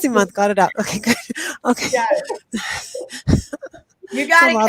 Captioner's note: laughs